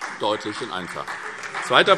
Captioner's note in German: Beifall SPD